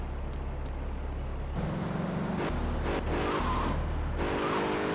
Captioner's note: car engine roaring